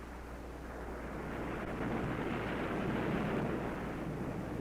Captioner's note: waves crashing